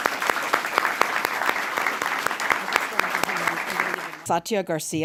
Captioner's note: applause